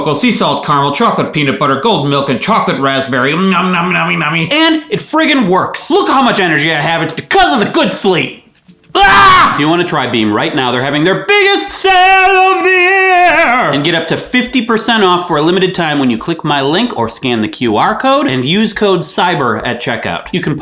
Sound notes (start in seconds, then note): 8.9 screams